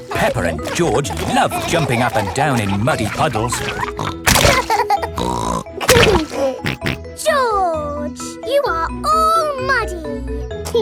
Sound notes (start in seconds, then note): 4.5 laughs and snorts